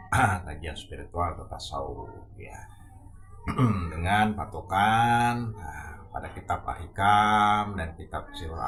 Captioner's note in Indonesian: berdehem